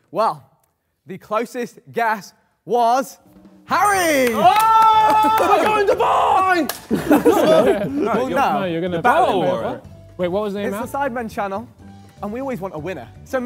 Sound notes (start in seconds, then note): 3.7 Harry yells; 4.1 Sidemen clap